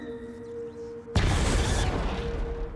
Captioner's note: electric zapping